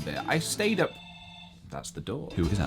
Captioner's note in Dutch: bel gaat